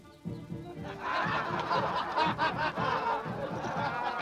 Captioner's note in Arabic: يضحك